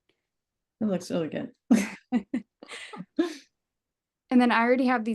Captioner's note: laughs